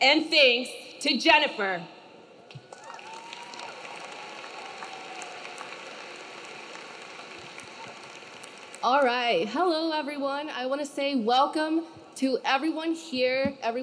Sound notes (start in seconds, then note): 2.5 audience cheering; 2.5 audience clapping